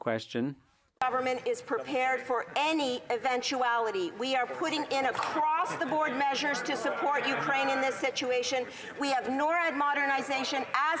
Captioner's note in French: voix de l'interprète